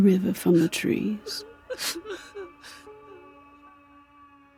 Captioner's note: people sobbing